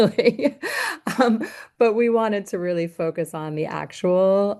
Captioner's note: laughter